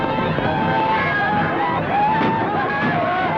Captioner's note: yelling